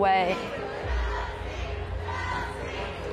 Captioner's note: crowd